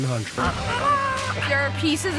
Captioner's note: yelling